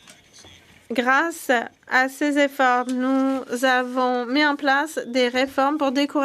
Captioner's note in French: voix de l'interprète